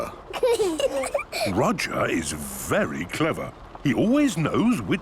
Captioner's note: children giggling